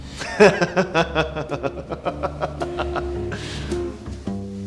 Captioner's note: laughs